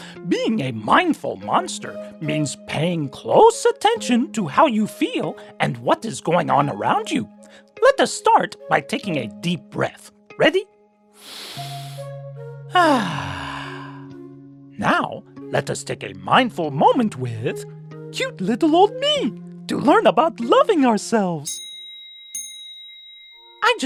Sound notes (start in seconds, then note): 11.1 exhales; 12.7 inhales